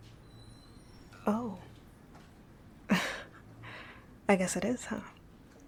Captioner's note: laughing